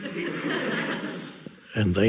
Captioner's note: audience laughs